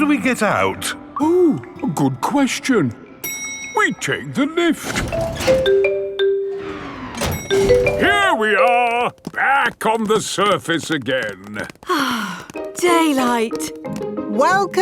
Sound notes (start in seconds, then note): 5.1 elevator dings; 11.8 sighs